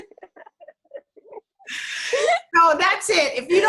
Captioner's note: both laughing